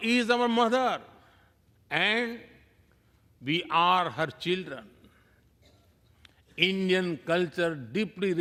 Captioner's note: speaking non-english